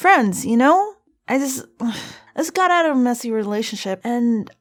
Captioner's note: sigh